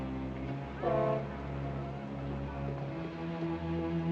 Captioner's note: ship horn